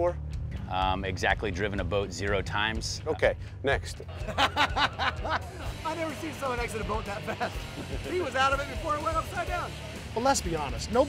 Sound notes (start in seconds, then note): 4.1 laughter